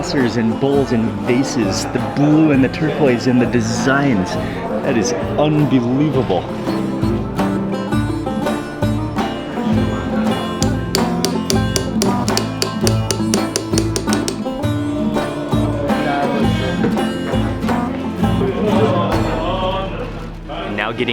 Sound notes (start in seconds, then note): 6.5 iranian instrumental music; 10.6 tapping; 19.0 background chattering